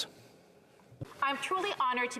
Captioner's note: speaking French